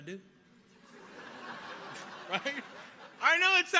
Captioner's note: audience laughs